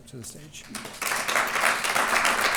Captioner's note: applause